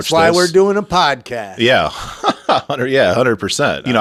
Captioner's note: laughs